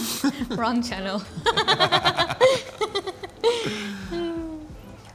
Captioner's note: presenters chuckle